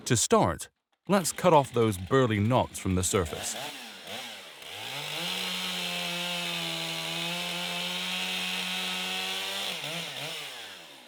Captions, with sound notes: To start, let's cut off those burly knots from the surface. (chainsaw roaring)